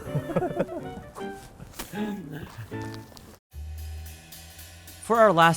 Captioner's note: laugh